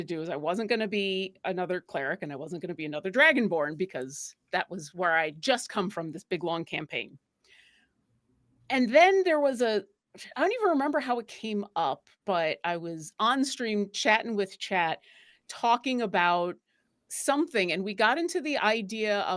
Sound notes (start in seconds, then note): none